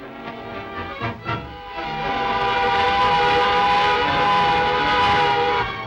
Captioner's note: machine whirs loudly